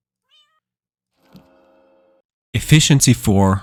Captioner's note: chest creaking; cat meowing